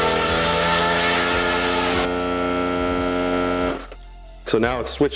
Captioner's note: engine screaming; machine buzzing